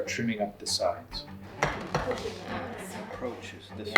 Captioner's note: axe thumps